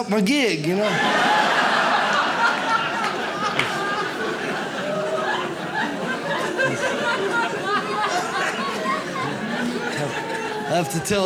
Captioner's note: audience laughs